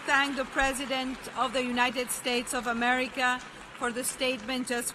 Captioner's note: applause